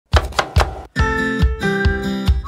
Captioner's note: knife chopping; upbeat music